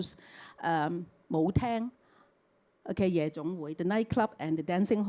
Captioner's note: Cantonese